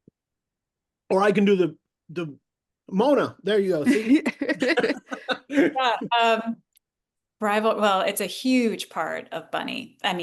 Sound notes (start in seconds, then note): 3.8 all laughing